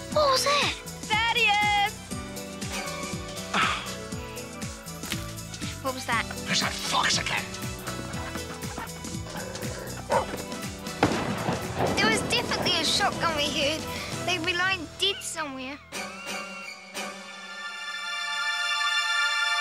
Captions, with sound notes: - What was that? - Thaddeus! - What was that? - There's that fox again! (chickens clucking) (barks) (gun fires) - That was definitely a shotgun we heard. They'll be lying dead somewhere. (horror music)